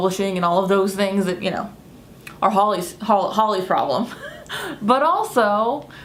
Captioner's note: laughs